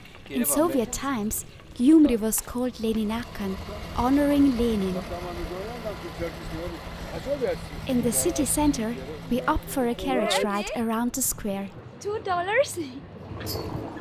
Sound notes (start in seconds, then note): 5.6 toy car noise